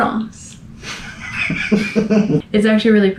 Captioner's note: laughter